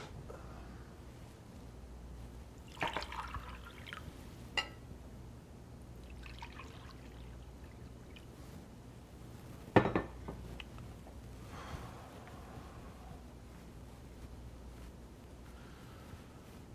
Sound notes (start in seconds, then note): 2.6 water pouring